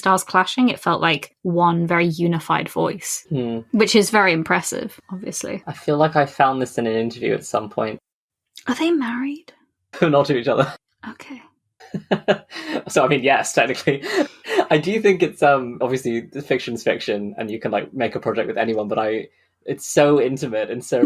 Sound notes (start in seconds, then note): 10.2 laughing; 11.8 laughs